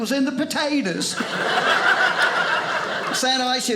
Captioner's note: audience laughing